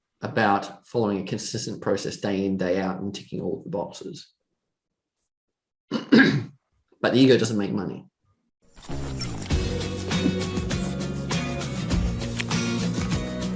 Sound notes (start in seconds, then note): 5.9 coughs; 8.9 gentle instrumental music